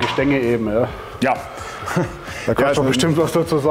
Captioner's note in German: lacht